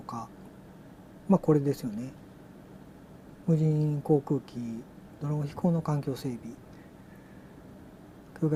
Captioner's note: drone